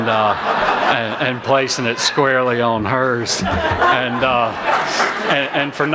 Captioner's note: laughter